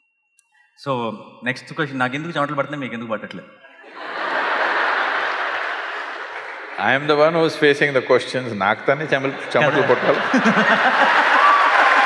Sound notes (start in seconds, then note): 3.8 laughter; 9.0 laughter; 11.2 cheers/Laughter/Applause